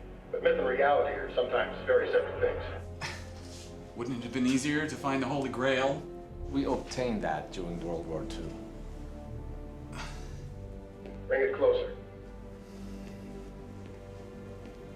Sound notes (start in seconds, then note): 2.9 laughs; 9.8 sighs